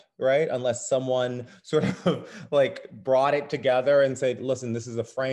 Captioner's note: chuckles